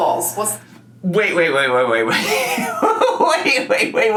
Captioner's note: laughs